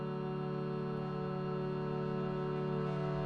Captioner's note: none